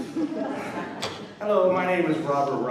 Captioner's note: laughter